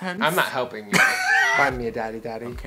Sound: wheeze

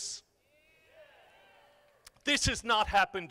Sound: crowd

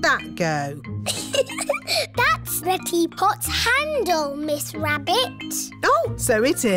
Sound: giggles

